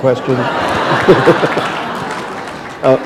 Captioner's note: laughter